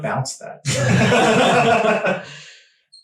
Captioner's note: all laughing